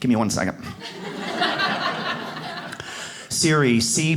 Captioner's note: audience laughs